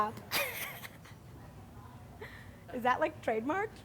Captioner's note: laughs